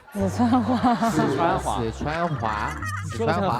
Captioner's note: doing the accent